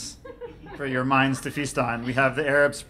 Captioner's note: laughing